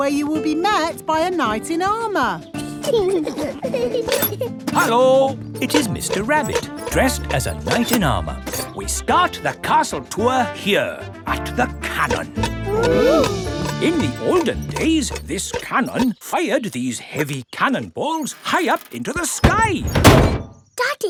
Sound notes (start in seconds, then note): 2.6 children giggling